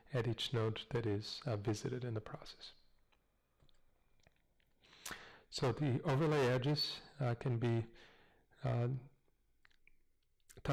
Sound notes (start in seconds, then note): 2.9 pause; 8.2 pause